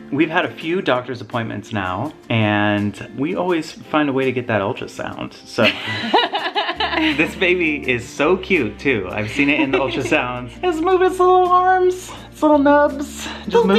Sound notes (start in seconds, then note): 5.6 laughs